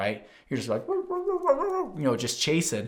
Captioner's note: imitating dog barking